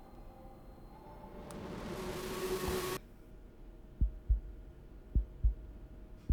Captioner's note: distorted sound, heartbeat